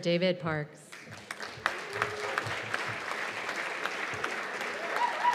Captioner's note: cheers and applause